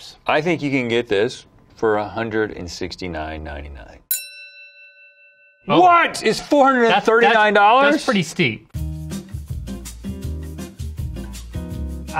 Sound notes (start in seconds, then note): 4.1 bell dings; 8.9 gentle acoustic guitar music